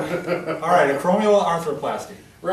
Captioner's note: laughter